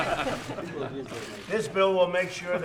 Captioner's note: laughter